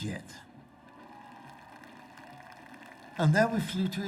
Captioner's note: crowd applauding